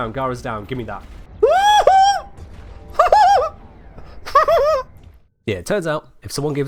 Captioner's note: squeals of absolute joy!